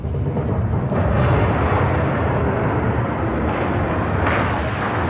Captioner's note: whirring crashing